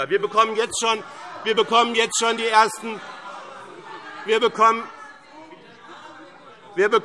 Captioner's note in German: Lebhafte Zurufe SPD, Freie Demokraten und DIE LINKE